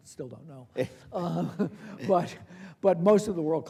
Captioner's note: chuckles